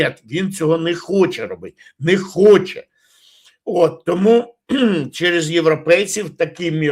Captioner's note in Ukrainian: прочищення горла